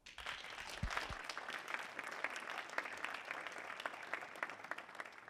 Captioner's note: audience applauding